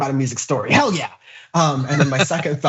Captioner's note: laugh